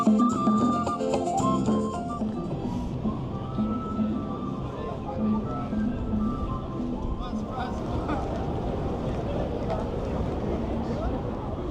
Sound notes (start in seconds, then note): 6.9 people chattering